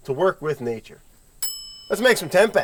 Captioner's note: bell chiming